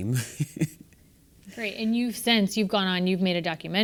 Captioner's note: laugh